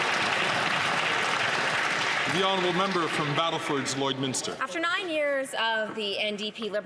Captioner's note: some Applause